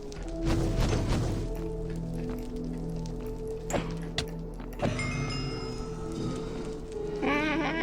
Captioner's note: blaze sounds